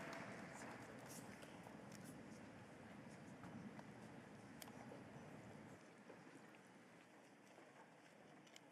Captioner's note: applause